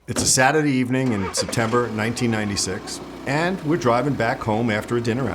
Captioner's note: car engine noise